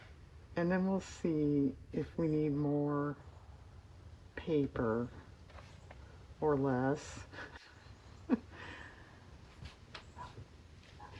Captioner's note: laughs